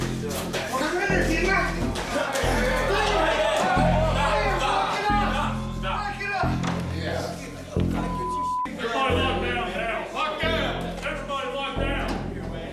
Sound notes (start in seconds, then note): 2.3 shouting